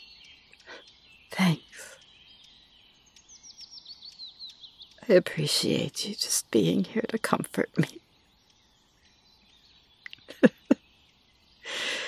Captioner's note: laughs sadly